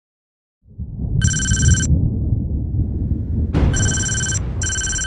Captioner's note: thunder booming